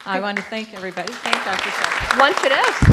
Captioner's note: applause